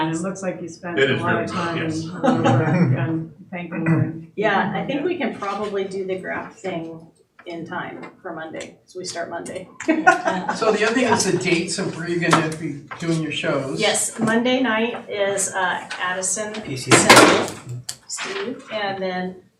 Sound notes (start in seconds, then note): 1.0 laughing; 9.7 laughing